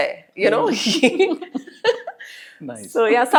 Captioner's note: laugh